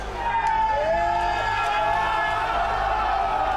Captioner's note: team cheering